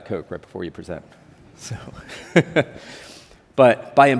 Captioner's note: chuckles